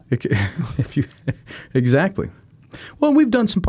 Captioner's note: laughing